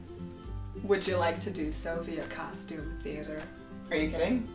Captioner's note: sarcastic